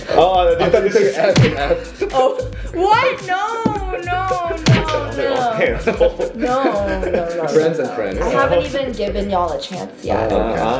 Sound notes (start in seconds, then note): 0.2 laughs; 3.8 laughing